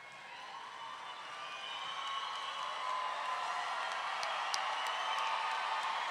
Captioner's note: roaring cheer and applause